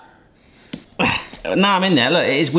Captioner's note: grunting